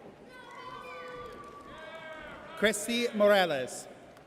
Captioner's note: audience cheers